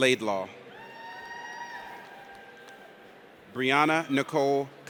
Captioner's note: audience cheers